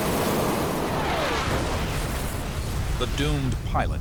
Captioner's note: explosion